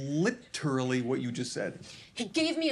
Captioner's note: none